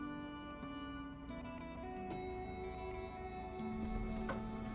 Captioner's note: elevator dings